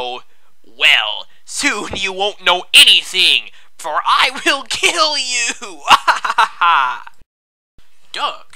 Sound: laughter

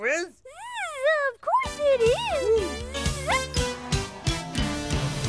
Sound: buzzes

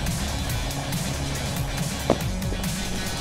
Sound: none

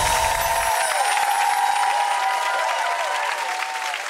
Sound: tinkling; crowd cheering; crowd clapping

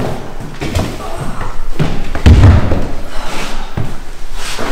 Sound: huffing and puffing

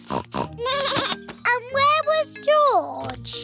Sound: snorts; bleats

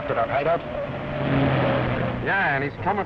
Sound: engine revving

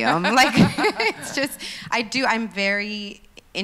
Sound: laughs

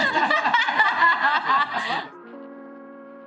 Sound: Alia laughing; lo-fi music

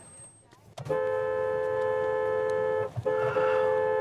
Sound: honking

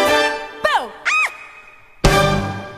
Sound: teenage girl scream

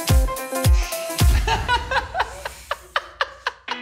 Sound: laughing

